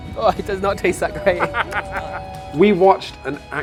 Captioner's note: laughing